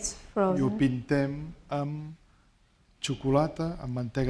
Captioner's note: speaking spanish